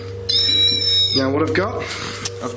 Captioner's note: squealing